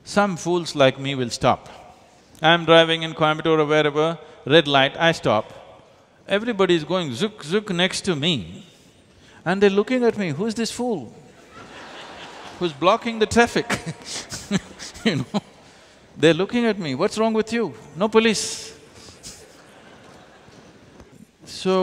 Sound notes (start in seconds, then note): 11.2 laughter; 13.4 laughs